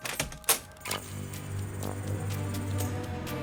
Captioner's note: door creaks